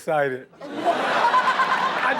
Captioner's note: everyone laughs